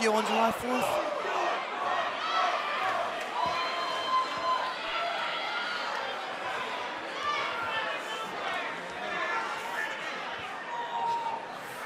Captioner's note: crowd cheering